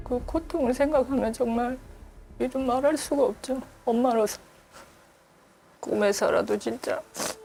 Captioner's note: voiceover